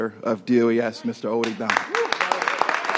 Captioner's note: applause